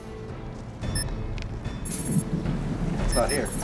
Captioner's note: beeping